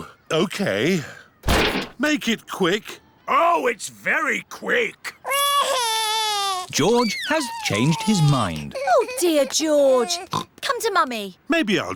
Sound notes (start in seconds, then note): 5.2 crying; 10.2 oinks